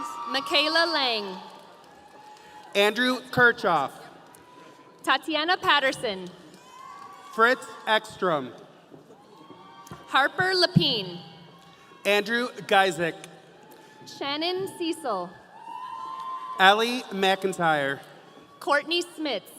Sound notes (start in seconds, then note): 13.6 audience cheering